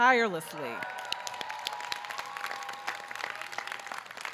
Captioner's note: audience cheering